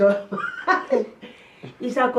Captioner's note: chuckles